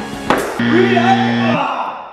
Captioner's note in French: bruit d'un buzz